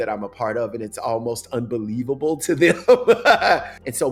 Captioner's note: laughs